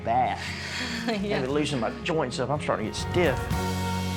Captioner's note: laughing